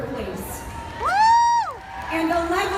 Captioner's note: crowd cheers